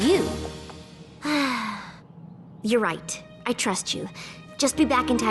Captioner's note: sigh